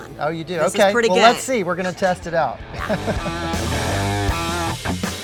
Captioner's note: mid-tempo rock music; laughs